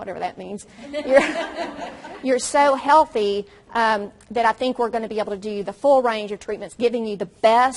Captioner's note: audience laughs